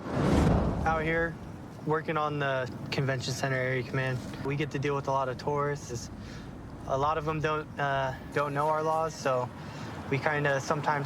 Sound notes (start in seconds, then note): none